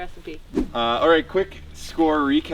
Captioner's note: air whooshing